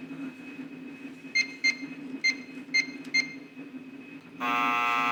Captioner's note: keypad beeps; door buzzes